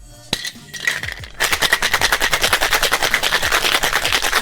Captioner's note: ice shaking